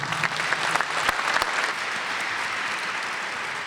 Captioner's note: audience claps